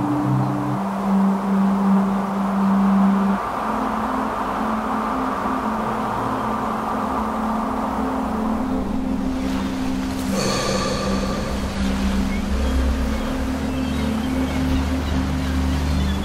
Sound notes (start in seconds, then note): 9.8 waves ripple; 13.3 birds call